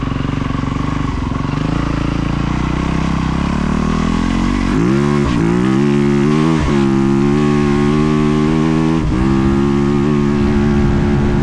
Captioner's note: engine roaring